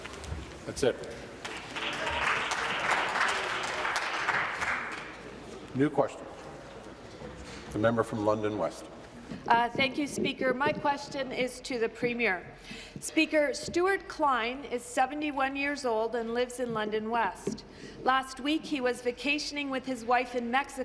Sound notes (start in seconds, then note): 5.9 applause